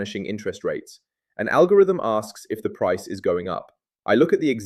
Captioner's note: thoughtful